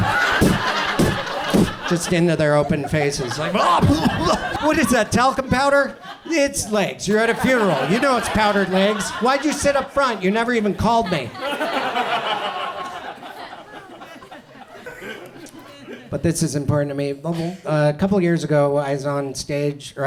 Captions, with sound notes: pfft, pfft, pfft, just into their open faces. What is that talcum powder? It's legs, you're at a funeral. You know it's powdered legs. Why'd you sit up front? You never even called me. (audience laughs) But this is important to me. Couple years ago I was on stage,